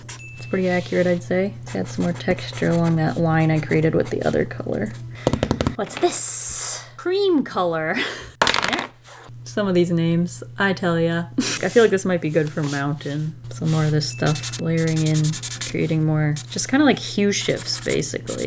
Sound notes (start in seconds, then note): 4.7 drumming; 8.4 clatter